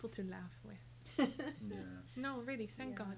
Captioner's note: laughing